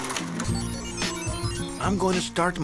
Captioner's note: electronic whirring